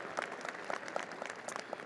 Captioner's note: audience applauding